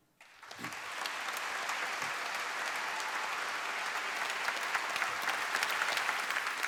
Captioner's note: applause